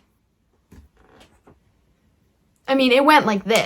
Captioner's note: snaps